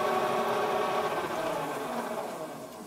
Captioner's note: machine stops